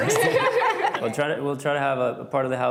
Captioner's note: laughing